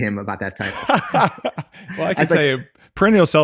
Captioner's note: laughing